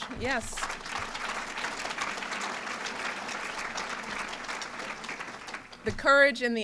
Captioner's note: applause